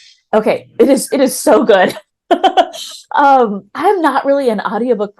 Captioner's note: laughs